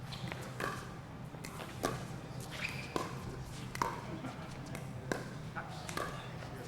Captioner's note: ball being hit; shoes squeaking